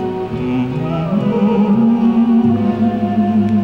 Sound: humming

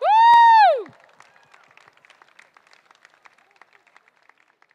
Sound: crowd applauding

